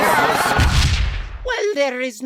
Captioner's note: explosion